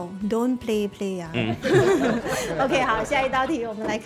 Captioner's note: laughs